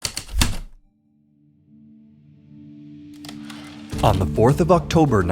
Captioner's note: heavy typewriter keystrokes, return slide